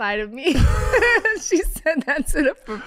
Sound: all laughing

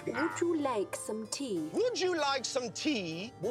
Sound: British accent

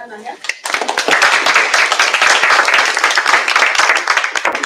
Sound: applause

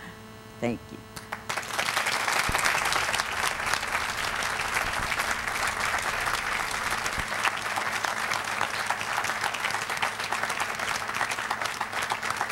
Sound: applause

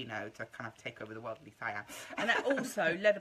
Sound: laughs

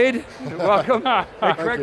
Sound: guests chuckling

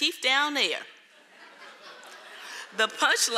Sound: audience laughing

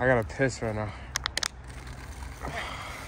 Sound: pissings sounds

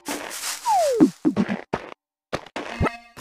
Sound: footsteps

